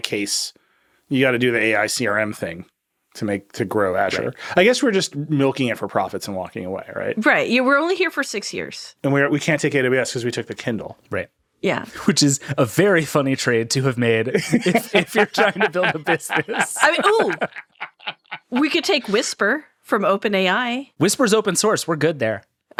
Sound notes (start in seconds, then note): 14.3 all laughing